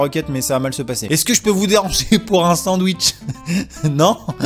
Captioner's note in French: En ricanant